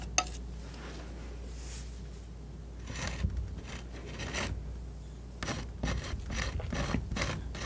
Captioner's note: scratching